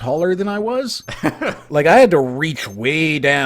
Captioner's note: laughs